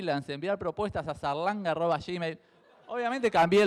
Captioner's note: crowd laughs